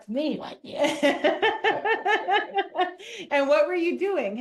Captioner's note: laughs